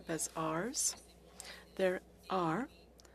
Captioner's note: speaking french